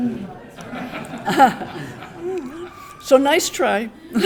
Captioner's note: audience laughing